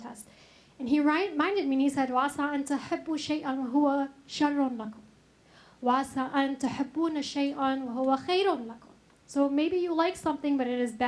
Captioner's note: speaks Arabic